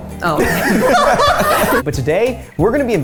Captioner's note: everyone laughing